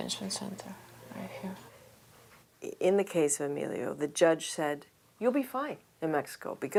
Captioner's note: speaking foreign language